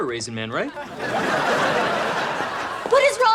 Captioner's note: laughs